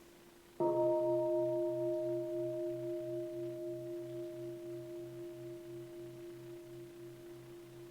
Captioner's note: bell chimes